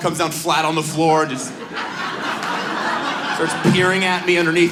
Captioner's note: audience laughs